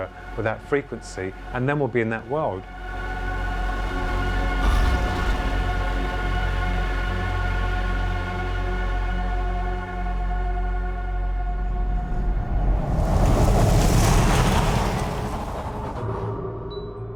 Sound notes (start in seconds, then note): 3.9 high-pitched whining; 11.6 air whooshes; 13.3 distorted air whooshing; 16.9 suspenseful music